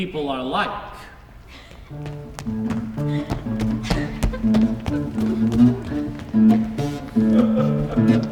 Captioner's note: footsteps running; simple guitar chords; audience laughs softly